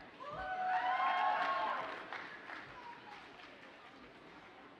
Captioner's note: audience cheers and applauds